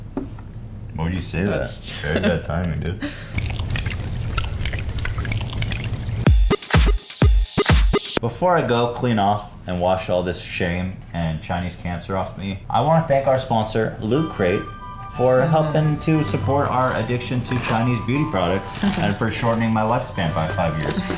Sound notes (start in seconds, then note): 3.3 odd liquid sound again x2; 6.2 funky music plays